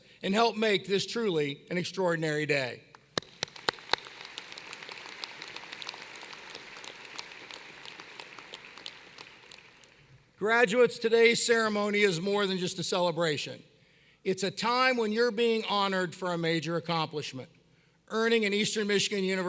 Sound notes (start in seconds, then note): 3.1 applause